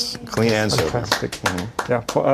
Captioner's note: applause